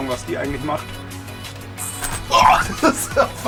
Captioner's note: water pistols shot